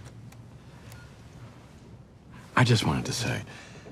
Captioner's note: camera beeps